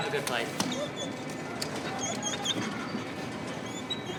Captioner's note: dogs whining